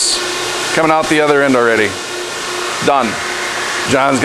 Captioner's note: machine noise